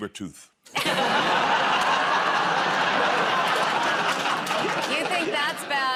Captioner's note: laughter